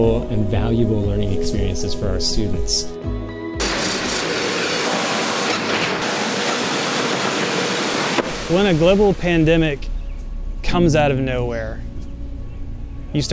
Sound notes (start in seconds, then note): 3.6 machine clanking; 3.6 machine whooshing